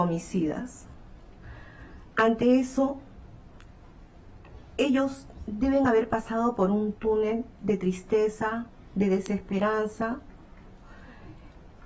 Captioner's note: speaking spanish